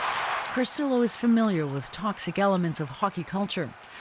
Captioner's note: cheers and Applause